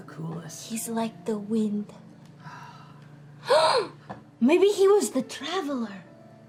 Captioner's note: gasps